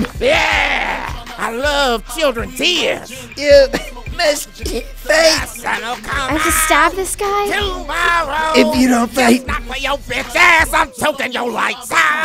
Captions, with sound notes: YEEEEAH! I love children tears! (Coughing) You must fight. (Singing badly) The sun will come out ... I have to stab this guy? ...tommorow... If you don't fight... ... just not for your bitch ass. I'm choking your lights out.